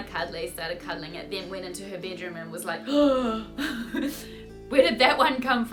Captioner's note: gasps